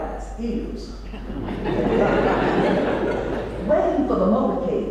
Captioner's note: laugh